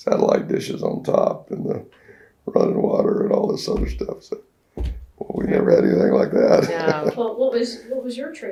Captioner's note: laughs